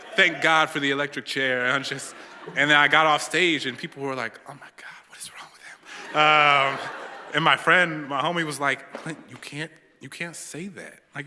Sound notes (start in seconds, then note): 6.0 laughter